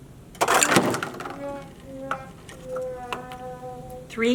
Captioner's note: clinking and falling; sad trombone sound effect